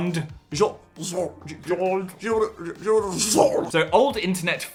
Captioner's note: both splutter